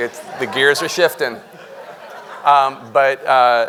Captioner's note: audience laughing